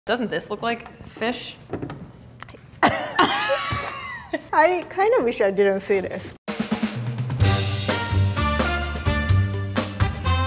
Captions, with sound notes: - Doesn't this look like fish? (laughter) - I kind of wish I didn't see this. (upbeat, jazzy music)